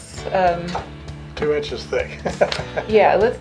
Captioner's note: laughs